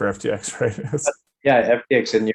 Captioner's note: laughs